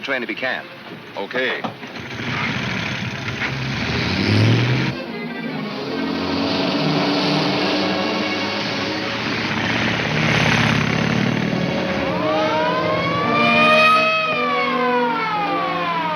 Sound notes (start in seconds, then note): 11.2 siren wailing